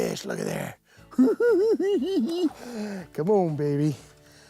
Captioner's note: laughing